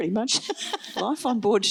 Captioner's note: laughs